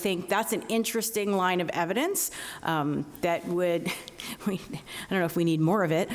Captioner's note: laughs